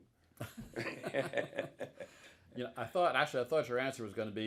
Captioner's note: both laughing